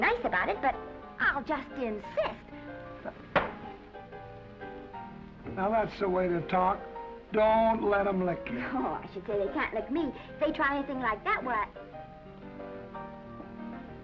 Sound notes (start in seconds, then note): 2.9 gentle music; 3.3 hand thuds; 11.7 gentle music